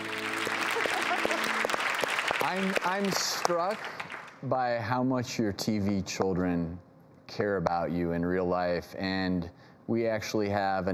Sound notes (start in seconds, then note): 0.0 audience applauds; 0.7 Joanna giggles